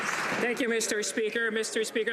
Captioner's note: some Applause